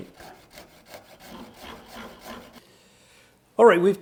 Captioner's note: saws cutting